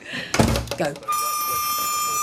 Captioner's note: door slams